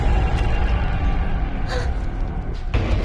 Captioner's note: gasping